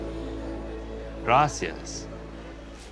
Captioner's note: speaking Spanish